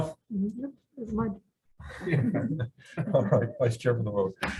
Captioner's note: crowd laughs